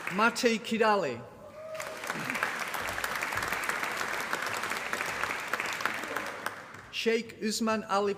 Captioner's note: applause